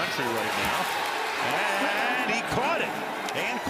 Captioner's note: cheering